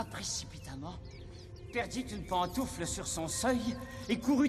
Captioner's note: none